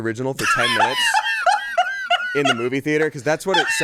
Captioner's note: laughs